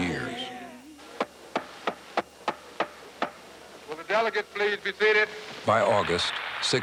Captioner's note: banging on gavel